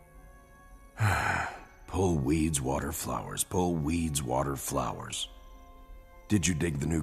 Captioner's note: heavy sigh